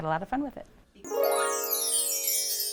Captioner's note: chime sound